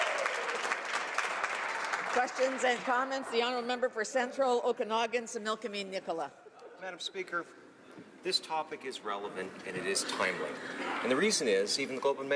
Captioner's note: applause